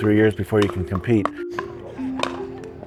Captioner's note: court noises